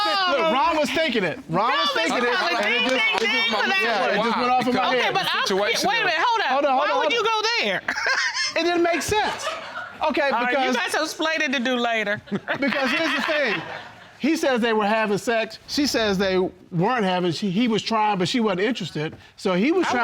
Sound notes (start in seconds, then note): 7.8 chuckling; 12.2 laughing